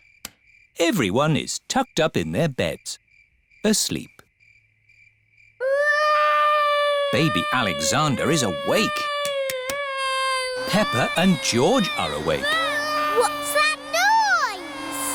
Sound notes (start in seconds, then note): 5.2 baby alexander crying; 10.6 vacuum cleaner whirring